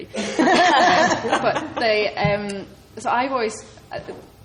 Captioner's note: laughs